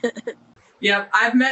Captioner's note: laughing